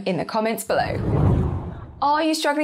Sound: screen whooshes

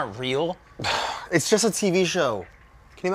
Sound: sighs

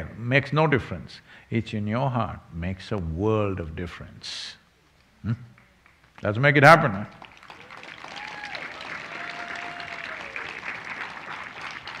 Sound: cheering/Applause

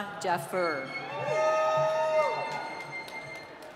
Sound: cheering

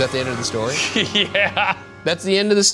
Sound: laughing

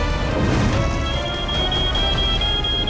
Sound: alarm sounding

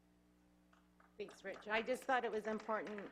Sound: clapping

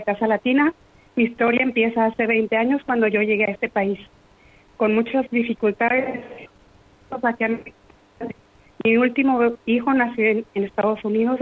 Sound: speaking in foreign language

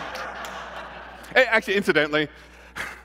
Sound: laughter

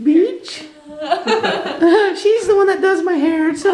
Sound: laughing

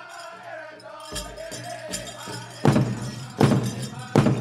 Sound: regalia ornaments jingling; drum beats intensely

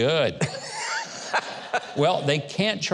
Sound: laughing

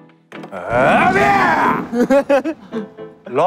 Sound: loud shout

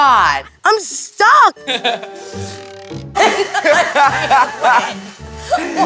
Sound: laughing

